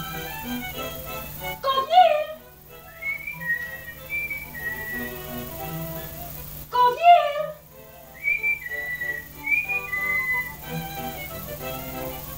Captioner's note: whistles